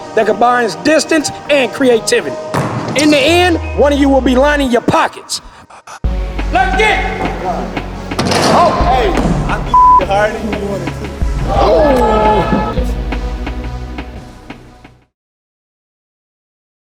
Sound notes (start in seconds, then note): 9.7 beep; 11.4 elevator and groaning; 14.0 upbeat music